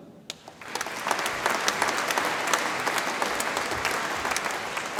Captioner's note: audience applauds